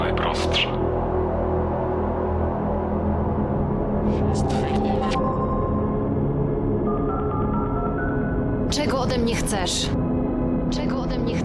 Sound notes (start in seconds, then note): 3.8 distorted voice, sound of a dialed number